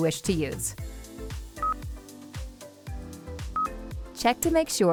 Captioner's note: system beeps